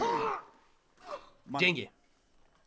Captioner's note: grunts